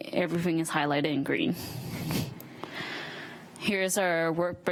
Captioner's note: chuckles